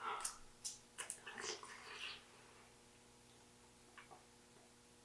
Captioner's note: mouth squishing